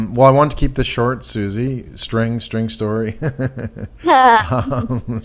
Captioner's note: laughs